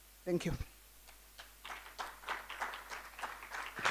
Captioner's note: applause